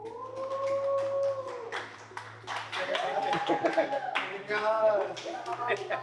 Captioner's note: contestants applause